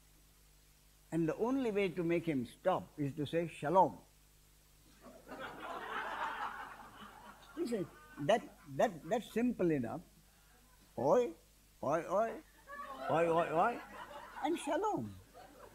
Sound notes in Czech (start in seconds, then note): 5.0 smích